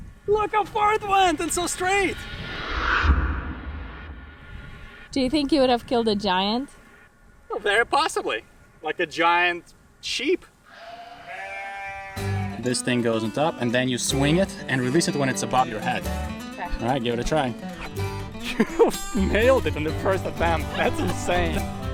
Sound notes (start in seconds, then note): 10.7 sheep bleating